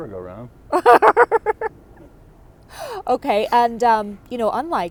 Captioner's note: laughter